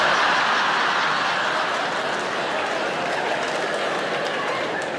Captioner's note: audience laughs